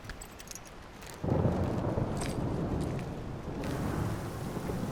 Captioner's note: thunder rumbling